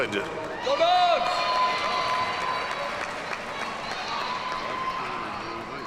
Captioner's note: audience cheers and applauds